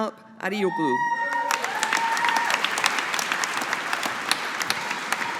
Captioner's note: audience applauding